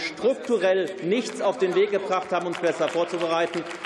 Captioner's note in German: Beifall